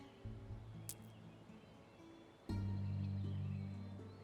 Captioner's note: stones clack